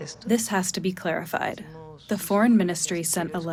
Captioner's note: through translator